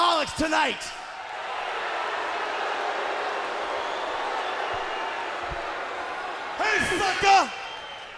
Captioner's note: crowd cheering